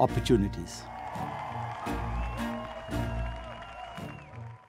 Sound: crowd cheering

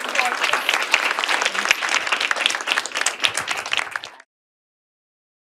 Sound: applause

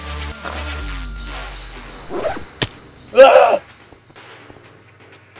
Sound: disturbed scream

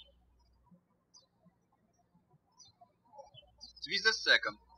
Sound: birds chirping

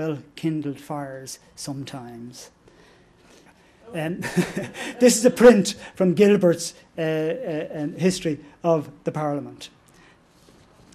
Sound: laughter

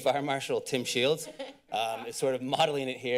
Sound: chuckles

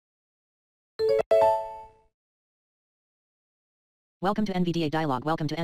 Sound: NVDA Chimes

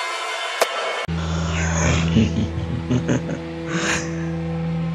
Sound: evil laugh

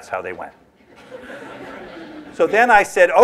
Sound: laughter

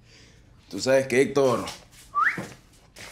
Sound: whistling

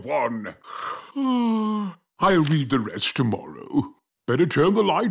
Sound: yawns

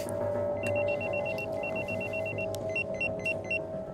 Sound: pager beeps

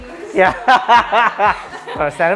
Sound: laughs

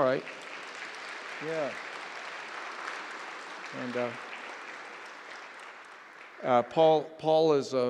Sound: applause

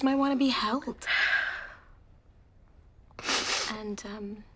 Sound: sighs, sniffles

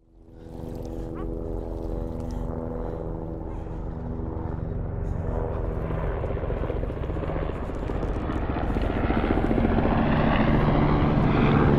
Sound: helicopter hovers above

